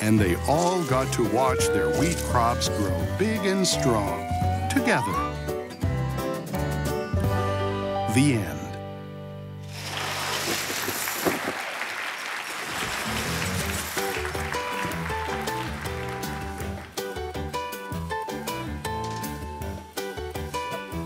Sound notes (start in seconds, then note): 11.8 applause; 15.0 upbeat music